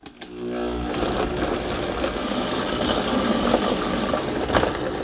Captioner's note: blender whirring